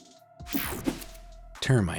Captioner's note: air whooshing